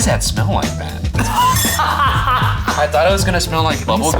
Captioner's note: laughs